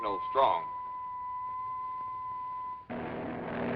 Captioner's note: beeping